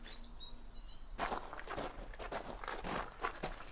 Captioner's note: hurried footsteps